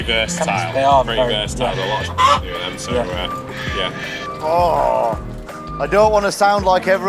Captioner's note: chicken squawk